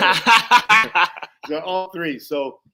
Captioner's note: laughs